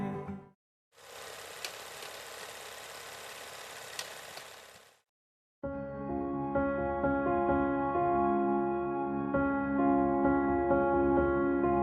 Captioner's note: film reel spinning